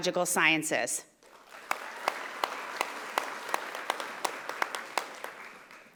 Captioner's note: audience applauding